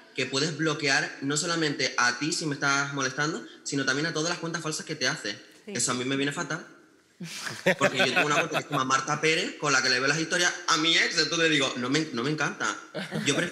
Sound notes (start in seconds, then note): 7.3 laughs